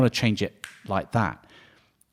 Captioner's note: snaps fingers